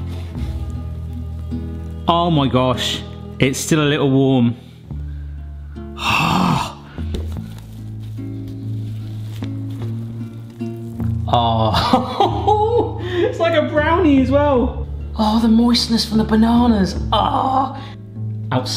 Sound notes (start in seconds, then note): 5.8 sighing; 11.7 laughs; 17.9 groans